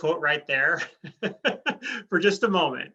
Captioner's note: laughing